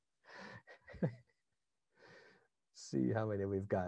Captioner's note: laughing